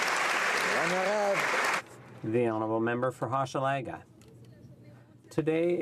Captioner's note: applause